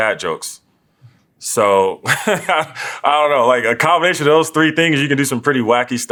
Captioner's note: laugh